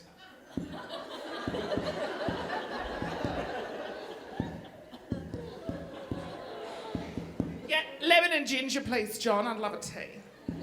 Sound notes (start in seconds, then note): 0.2 audience laughing; 0.6 microphone popping